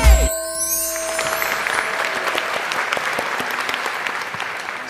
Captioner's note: clapping